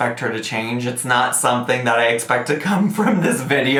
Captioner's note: laughs